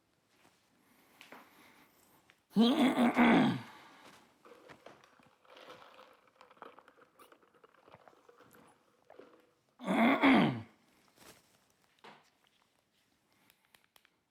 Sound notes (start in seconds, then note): 2.6 clearing his throat; 6.1 ice jangling; 9.8 clearing his throat